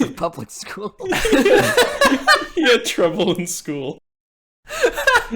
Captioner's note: everyone laughs